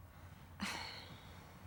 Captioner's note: sighs